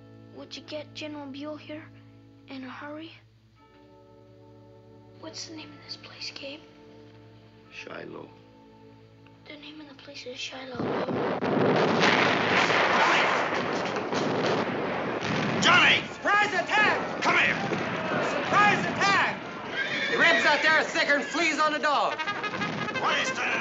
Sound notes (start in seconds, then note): 10.7 explosions nearby; 14.5 gunfire; 22.0 bugle playing